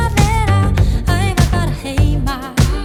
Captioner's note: mhmmm